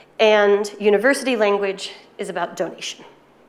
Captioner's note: none